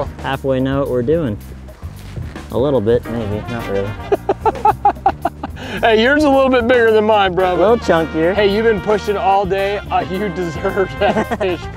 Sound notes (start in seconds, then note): 4.0 laughter